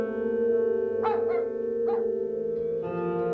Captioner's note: dog barking